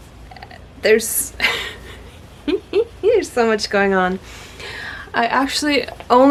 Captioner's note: giggles